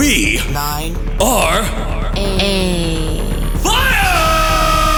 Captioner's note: speech slowing